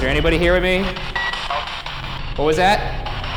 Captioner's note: radio beeps; distorted speech